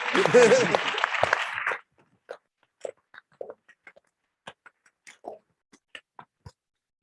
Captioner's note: applause